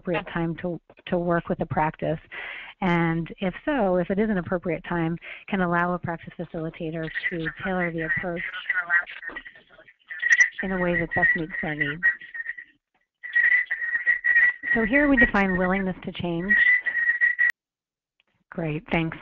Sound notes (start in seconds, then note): 8.1 audio interference; 12.5 audio interference